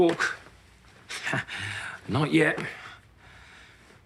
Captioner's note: he chuckles